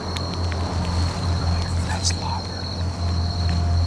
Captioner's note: whispering